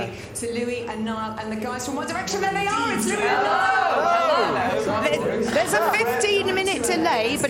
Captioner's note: feedback loop and voices repeating and overlapping